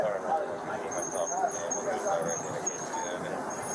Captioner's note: radio chatter